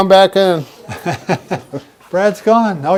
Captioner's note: laughter